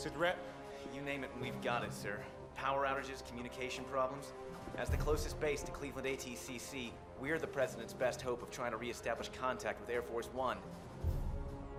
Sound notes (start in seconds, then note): none